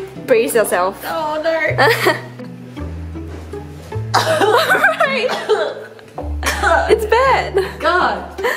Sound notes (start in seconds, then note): 1.8 laughs; 4.1 coughs